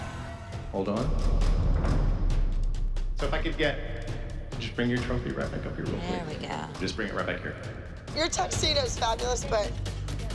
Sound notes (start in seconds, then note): none